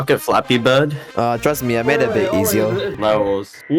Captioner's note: yapping